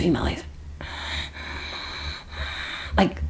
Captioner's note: breathing heavily